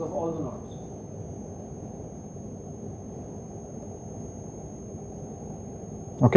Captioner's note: static